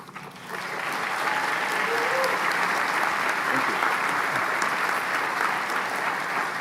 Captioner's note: applause